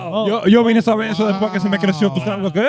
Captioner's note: speaking In Foreign Language